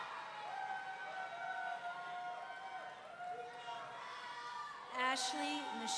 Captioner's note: audience cheering; audience members whooping